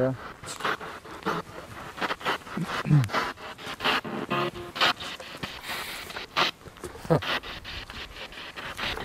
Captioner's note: radio noise from the spirit box